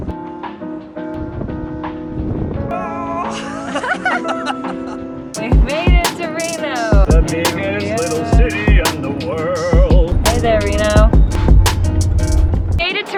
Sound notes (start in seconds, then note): 0.1 lo fi music; 2.8 laughs